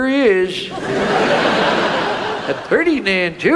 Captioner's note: audience laughs